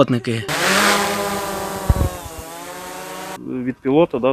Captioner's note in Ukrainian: злітає безпілотник